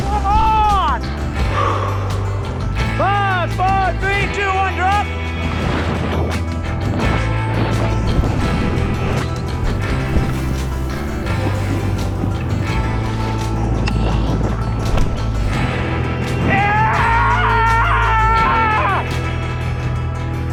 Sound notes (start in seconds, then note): 0.0 upbeat electronic music; 6.2 upbeat electronic music; 16.4 man whooping